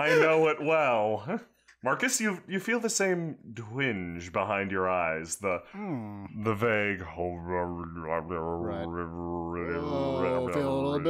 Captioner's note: demon noises